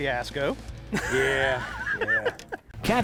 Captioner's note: laughs